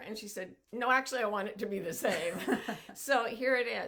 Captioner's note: laughs loudly